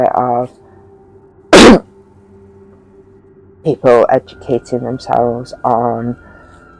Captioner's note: coughs